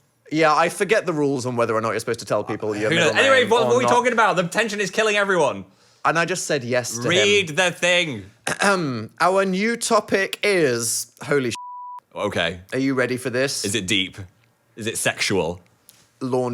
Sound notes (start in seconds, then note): 11.5 beep